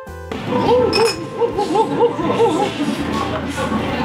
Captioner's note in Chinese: 旁邊有猴子在鬼叫